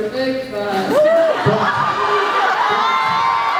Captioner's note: laughs, cheers; laughs, cheers, applauds